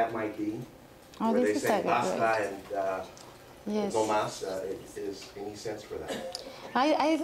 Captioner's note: spanish